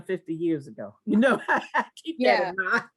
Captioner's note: laugh